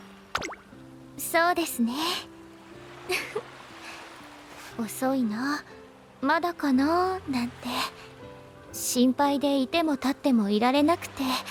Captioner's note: laughs